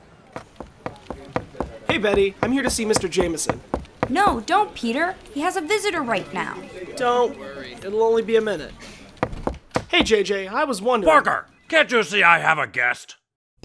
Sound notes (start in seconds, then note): 0.0 New York street noises; 0.4 Daily Bugle office noises; 3.5 footsteps; 4.0 Daily Bugle office noises; 9.1 footsteps; 9.2 door opening